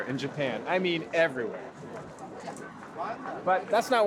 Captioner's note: indistinct chatter